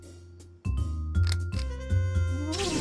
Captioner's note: click